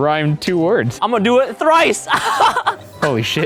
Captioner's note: laughs